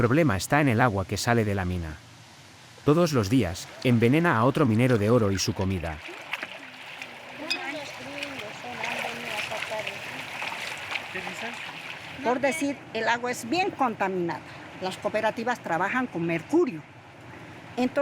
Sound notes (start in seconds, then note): 7.3 people chattering; 12.7 speaking in foreign language